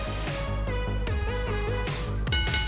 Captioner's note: bell ringing